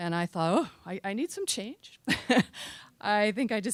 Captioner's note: chuckling